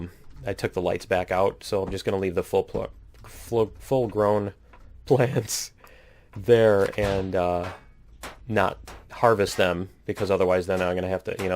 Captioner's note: pinging